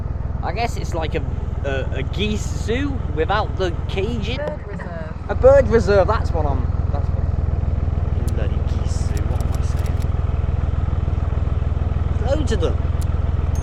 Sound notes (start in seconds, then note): 10.4 narrowboat engine sounds